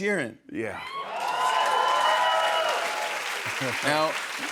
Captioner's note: cheers and applause